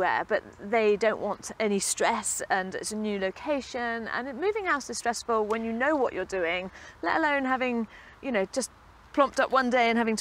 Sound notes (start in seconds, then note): none